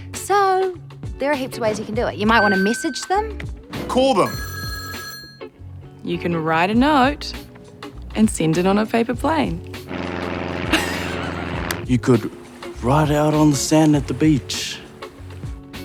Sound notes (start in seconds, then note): 4.0 telephone rings; 9.8 laughs